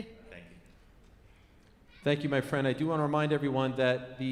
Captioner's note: laughs